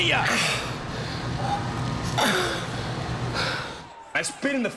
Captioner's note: person groaning